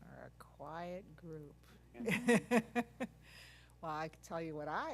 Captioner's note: laugh